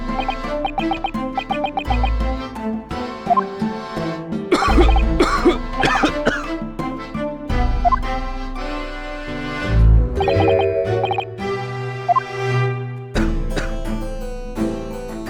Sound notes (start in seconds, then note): 4.5 cough!; 7.1 cough